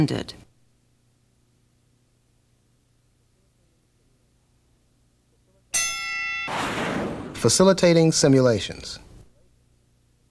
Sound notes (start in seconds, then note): 5.7 bell rings